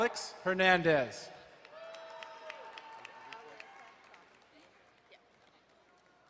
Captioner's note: crowd cheering and applauding